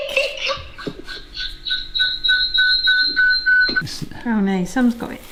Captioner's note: words echoing from phone